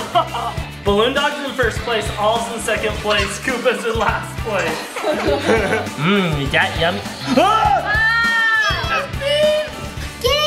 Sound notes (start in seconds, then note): 4.7 laughter; 7.5 terrified shouting